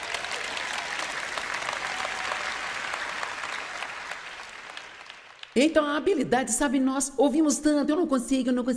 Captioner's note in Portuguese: audiência aplaude